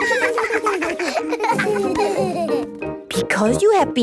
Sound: laughter

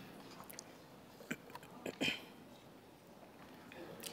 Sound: clearing throat

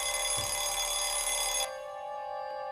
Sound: ringing stops

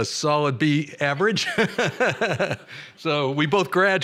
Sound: laughter

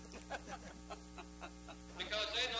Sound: laughing together

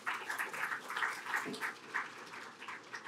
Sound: applause

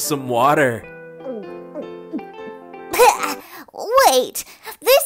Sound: gulps

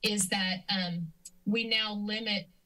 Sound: clicks tongue

